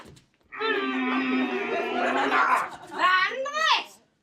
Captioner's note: kissing sounds